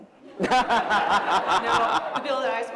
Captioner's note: laughter